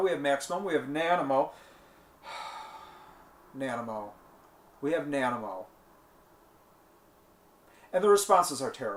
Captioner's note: sigh